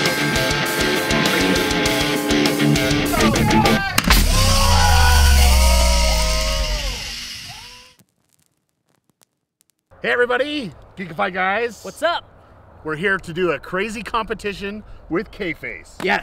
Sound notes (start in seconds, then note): 3.8 shouting